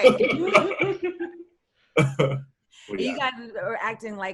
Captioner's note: all softly giggling